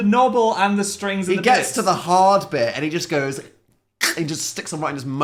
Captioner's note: gagging